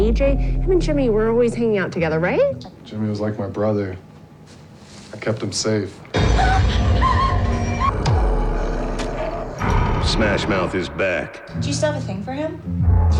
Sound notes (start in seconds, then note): 5.9 Nancy cries; 6.1 suspenseful music